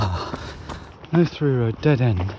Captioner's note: sighing